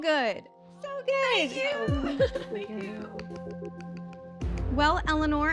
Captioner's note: laughs